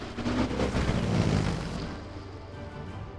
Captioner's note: whirring